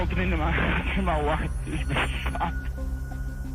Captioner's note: line ringing